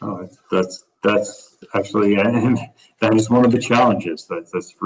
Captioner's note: laughs